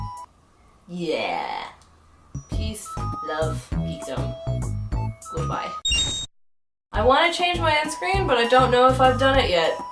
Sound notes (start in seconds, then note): 5.8 Legend of Zelda rupee sound effect